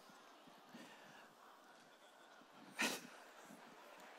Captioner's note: laughter